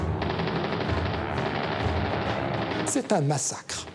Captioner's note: guns firing